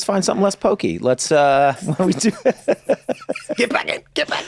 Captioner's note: laughs